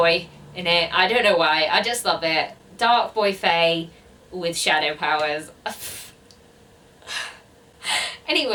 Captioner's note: sigh